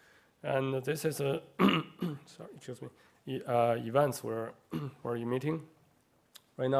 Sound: cough; cough

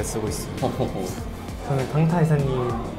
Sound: laughing

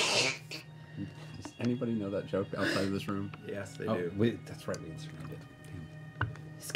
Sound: laughs

